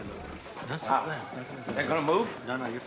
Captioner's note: mutters